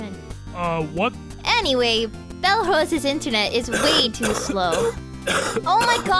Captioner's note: someone starts coughing